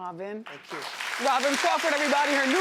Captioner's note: audience applauding